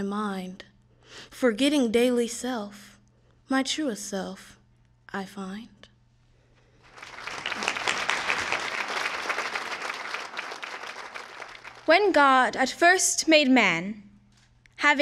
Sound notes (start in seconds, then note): 10.2 applause